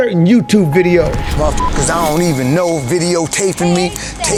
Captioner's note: beep